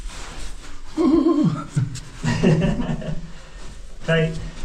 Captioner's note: laughs